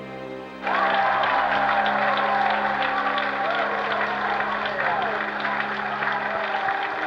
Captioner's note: cheers and applause